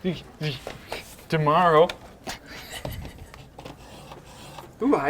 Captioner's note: laughing